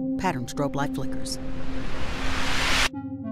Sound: static rises; mysterious music

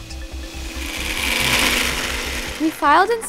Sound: drill whirring

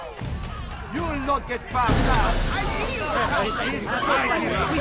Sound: hidden blade stabbing sound

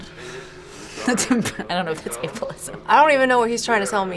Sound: laughs

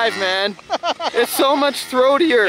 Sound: laughs

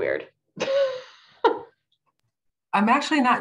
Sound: chuckling

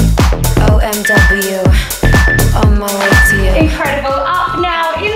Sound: timer beeping

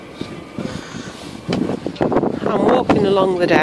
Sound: wind noise

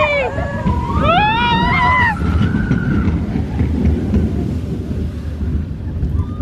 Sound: screams; ride rumbling

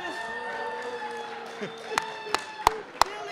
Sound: applauding

